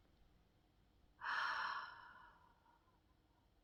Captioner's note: sighs